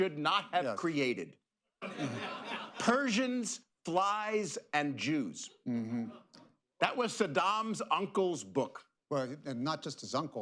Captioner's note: laughter